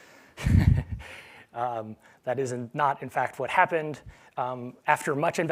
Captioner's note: laugh